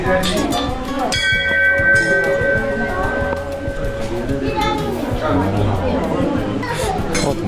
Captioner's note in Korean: 맑게 울려 퍼지는 종소리